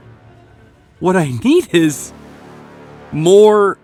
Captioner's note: chuckles